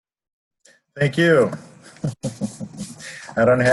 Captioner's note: laughs